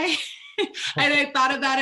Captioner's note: laughing